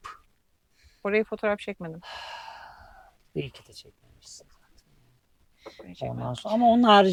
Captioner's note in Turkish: iç çeker